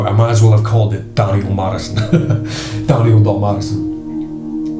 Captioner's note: laughs